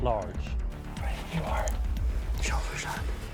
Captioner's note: whispering